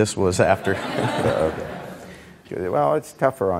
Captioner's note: audience laughing